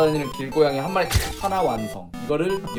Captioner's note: snap!